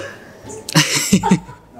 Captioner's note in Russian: смеется